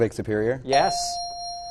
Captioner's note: correct answer chime